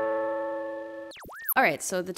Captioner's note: calm instrumental music; static buzzes